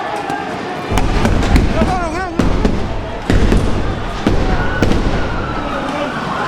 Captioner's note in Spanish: Golpes con piedras, gritos y balazos